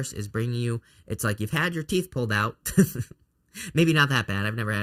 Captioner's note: chuckles